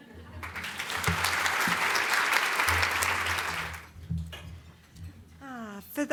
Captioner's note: audience Applause